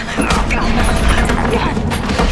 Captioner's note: clattering; grunting; thudding